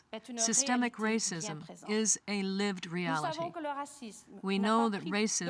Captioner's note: speaking french